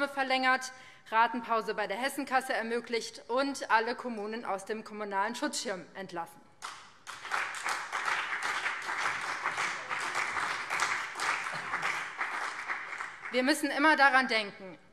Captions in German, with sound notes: verlängert, eine Ratenpause bei der Hessenkasse ermöglicht und alle Kommunen aus dem Kommunalen Schutzschirm entlassen. [Beifall BÜNDNIS 90/DIE GRÜNEN und CDU] Wir müssen immer daran denken: